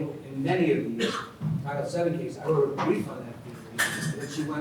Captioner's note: speaks faintly